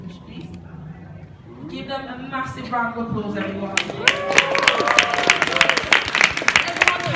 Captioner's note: crowd cheers and applauds